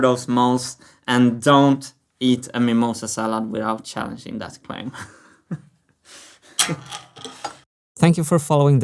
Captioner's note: chuckles